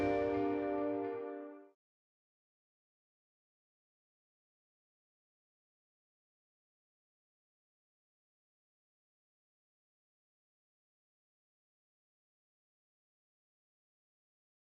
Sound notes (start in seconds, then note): 2.4 silence